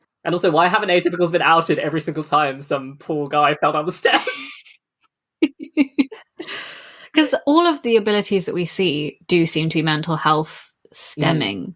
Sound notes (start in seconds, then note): 4.0 laughs